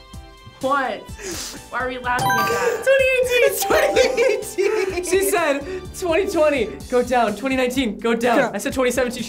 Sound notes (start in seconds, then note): 2.5 buzzer chimes; 3.7 laughing; 4.7 bell chimes